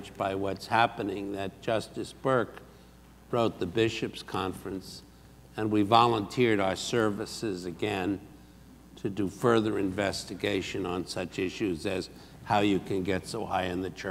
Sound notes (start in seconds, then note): none